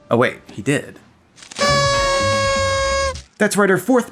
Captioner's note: party horn